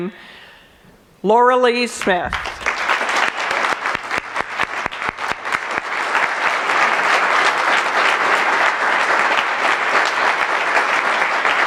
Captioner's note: applause